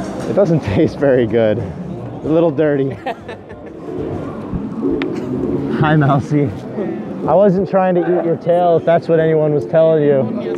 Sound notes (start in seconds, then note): 2.9 laughing